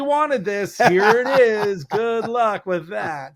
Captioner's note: laughs